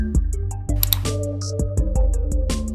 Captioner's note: gentle upbeat music; mouse clicks; gentle upbeat music